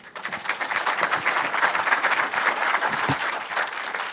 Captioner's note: audience applauds